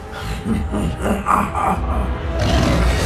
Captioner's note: dark laughter